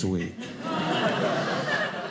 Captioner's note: audience laughing